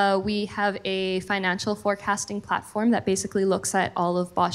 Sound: none

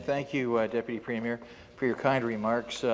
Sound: some Applause

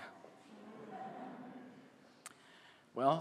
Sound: laughter

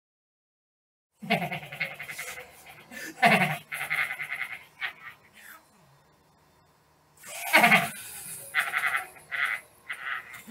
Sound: horrifying laugh

